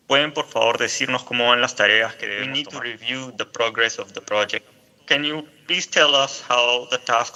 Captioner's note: not speaking english